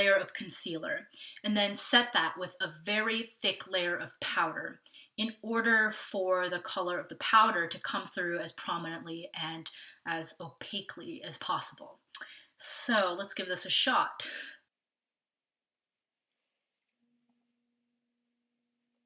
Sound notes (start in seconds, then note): 15.3 no sound